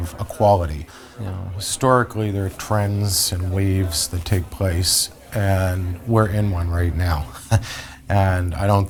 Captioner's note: laughs